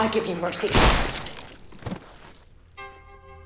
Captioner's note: gunshot